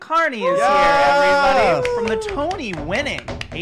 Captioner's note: cheering